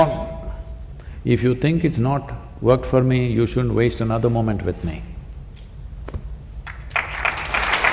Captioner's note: applause